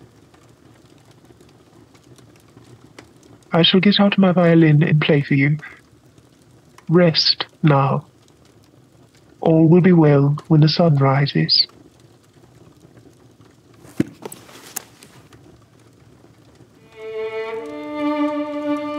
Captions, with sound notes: I shall get out my violin and play for you. Rest now. All will be well when the sun rises. [Violin case opens] [Violin music]